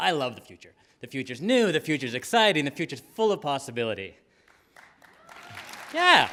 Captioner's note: applause